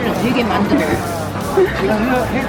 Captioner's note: nervous laugh from me